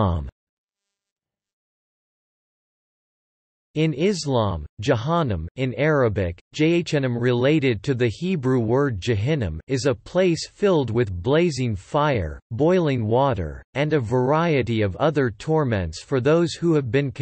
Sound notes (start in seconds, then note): 5.2 in Arabic: جهنم